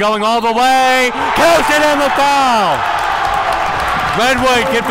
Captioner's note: crowd cheers